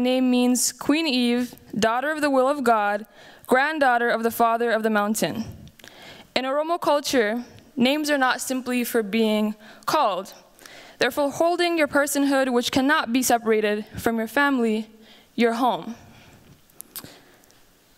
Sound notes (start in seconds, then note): none